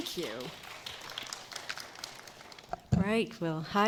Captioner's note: applause